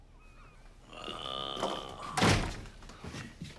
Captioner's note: groans